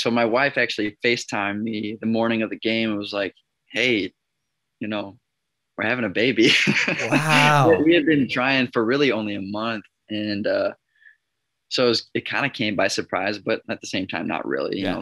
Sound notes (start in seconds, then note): 6.5 laughs